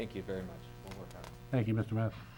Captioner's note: faintly speaking